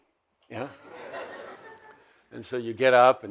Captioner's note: audience laughs